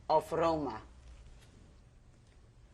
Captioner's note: pauses for 3 seconds